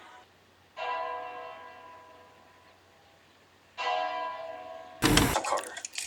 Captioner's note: bell tower ringing